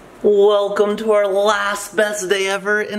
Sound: none

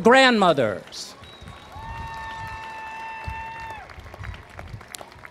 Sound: applause

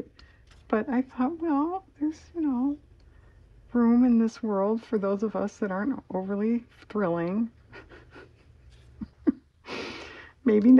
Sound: laughs

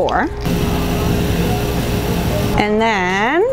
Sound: grains pinging

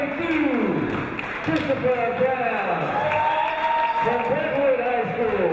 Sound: crowd cheering

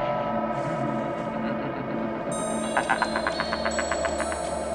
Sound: sinister laughing

